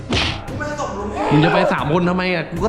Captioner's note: pat